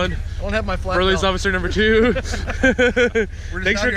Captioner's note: laughing